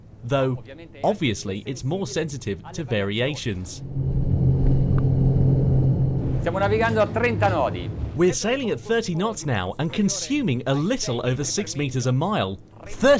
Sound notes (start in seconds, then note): 3.8 boat revving; 6.6 man speaks in foreign language